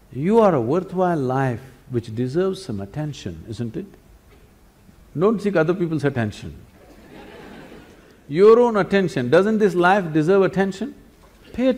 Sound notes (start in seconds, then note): 6.8 laughter